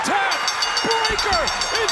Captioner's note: bell rings